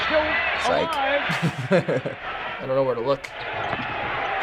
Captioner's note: chuckles